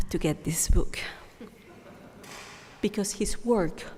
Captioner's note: audience chuckling